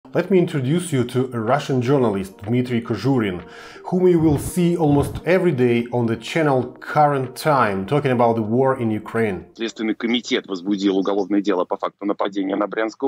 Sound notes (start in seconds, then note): 8.9 russian